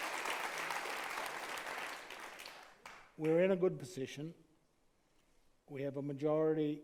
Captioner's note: applauds